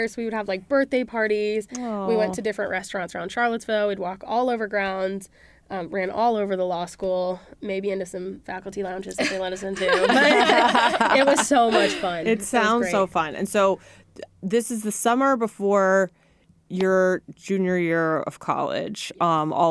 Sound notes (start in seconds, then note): 9.2 laughter